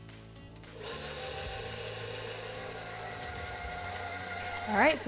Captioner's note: mixer roaring